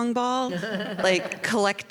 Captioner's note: laughter